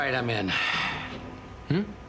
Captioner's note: sighing